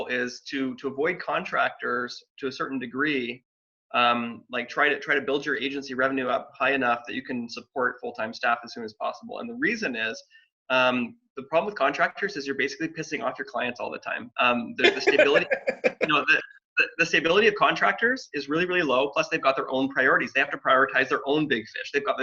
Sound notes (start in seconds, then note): 14.7 laughing